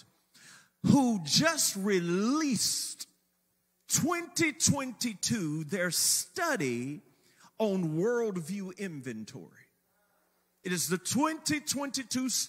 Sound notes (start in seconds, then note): none